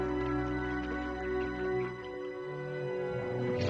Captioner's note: applause